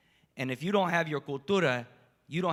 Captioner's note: spanish